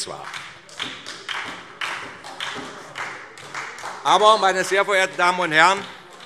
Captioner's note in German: Beifall SPD - Zuruf